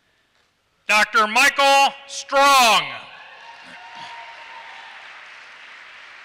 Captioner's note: applause